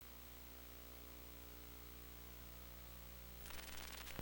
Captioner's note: 60hz buzz